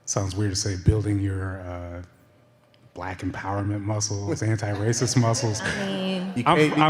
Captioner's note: laughter